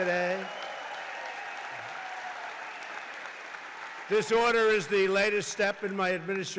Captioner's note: applause